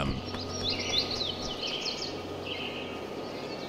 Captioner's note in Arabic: طيور تغرد